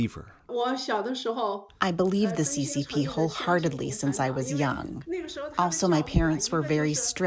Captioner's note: through translator